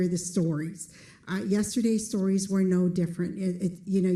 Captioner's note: none